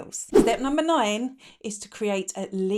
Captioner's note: air whooshing